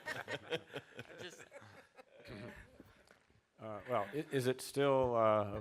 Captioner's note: chuckles